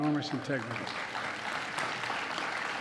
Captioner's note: applause